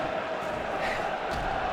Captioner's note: sighs